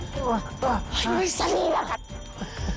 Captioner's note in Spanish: Sonido de alarma; Quejidos